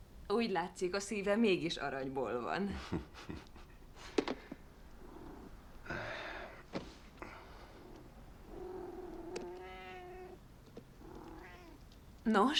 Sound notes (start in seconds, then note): 9.2 meows